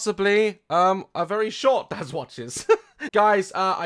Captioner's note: laughs